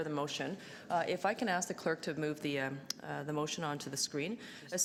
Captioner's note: none